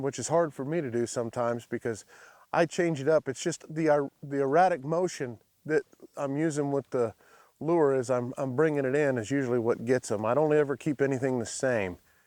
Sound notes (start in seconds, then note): none